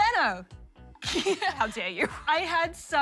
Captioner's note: laughs